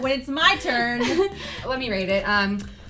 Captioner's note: laughing